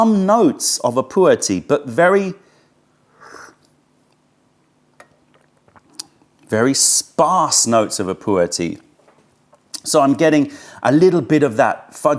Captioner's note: sips tea